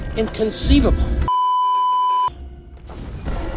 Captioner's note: beeeeeeeeeeeep